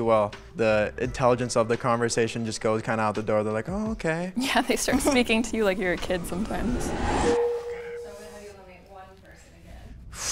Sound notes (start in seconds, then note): 7.4 text dings